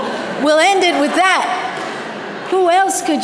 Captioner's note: audience laughter